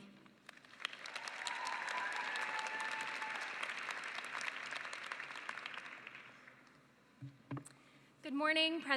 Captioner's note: cheering and applause